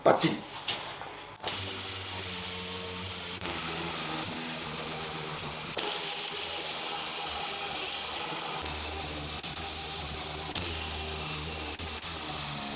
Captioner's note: working sound